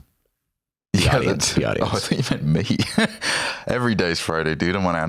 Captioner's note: laughs